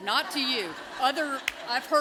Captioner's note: laughter